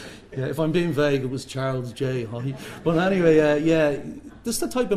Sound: laughter

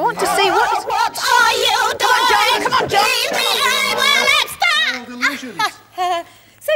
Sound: A wobbly and shouty Dalek voice

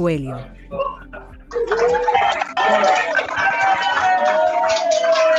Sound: cheering

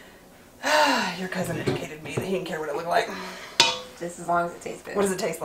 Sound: exhales heavily

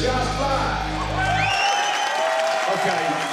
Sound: cheering

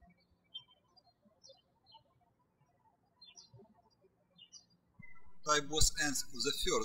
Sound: birds chirping

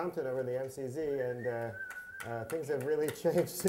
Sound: whistling

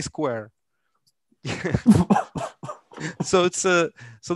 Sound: laughter

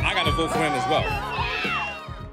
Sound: audience cheers

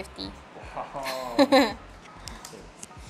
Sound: laughs

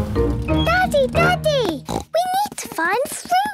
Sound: snorts

